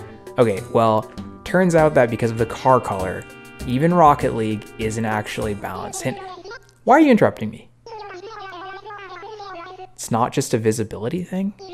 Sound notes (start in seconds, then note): 5.8 "my guy" interrupts in Animalese; 8.0 "my guy" explains themself in Animalese